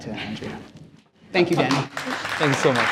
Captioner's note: applause